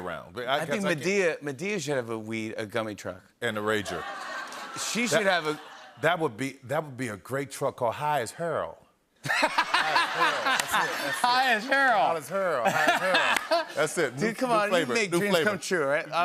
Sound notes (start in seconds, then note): 3.9 laughter; 9.2 laughter